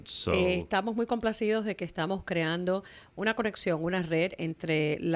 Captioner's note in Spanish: Hablando ingl\s